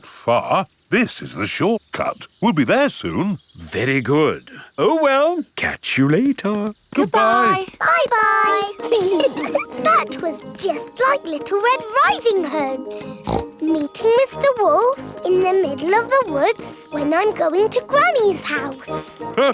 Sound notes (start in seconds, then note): 8.7 giggling; 13.0 snorts